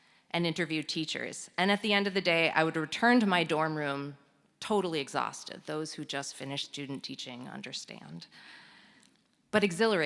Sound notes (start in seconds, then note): none